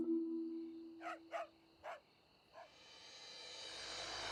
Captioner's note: dog barking